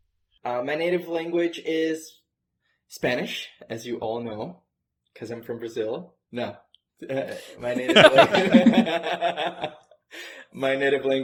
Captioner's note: laughter